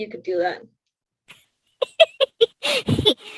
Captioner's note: laughs